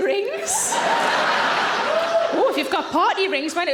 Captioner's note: audience laughs